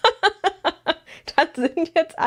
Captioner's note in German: gelächter